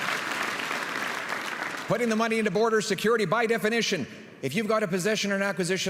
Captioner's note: applause and cheering